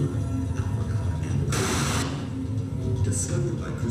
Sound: harsh crackle

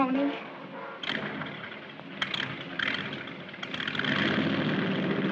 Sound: engine sputtering

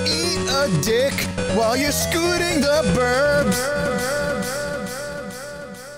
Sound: echoing

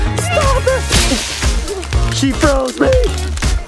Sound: ice shatters

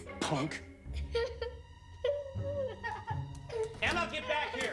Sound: sobbing

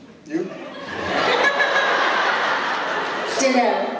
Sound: laughter

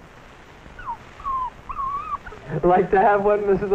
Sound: puppy whimpering

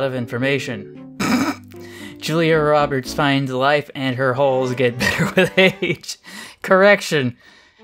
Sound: snickers

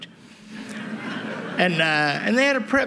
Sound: laughter

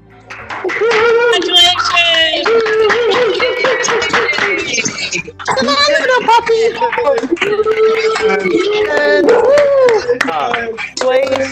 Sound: applause, shouts of congratulations

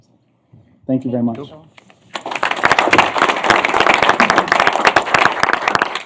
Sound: applause

